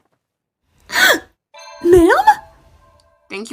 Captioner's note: Amy gasps